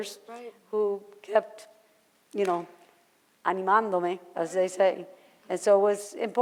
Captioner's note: foreign language